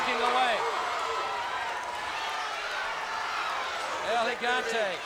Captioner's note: audience cheering